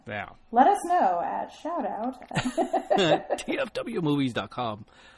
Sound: both laugh

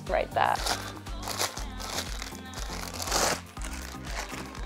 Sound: plastic crackling

